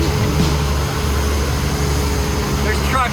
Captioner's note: construction sounds